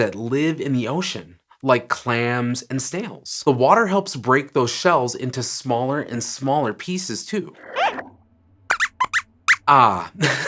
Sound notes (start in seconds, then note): 8.6 squeaks squeaks